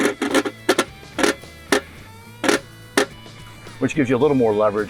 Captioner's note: wrench clicking